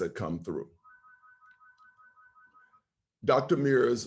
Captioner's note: phone ringing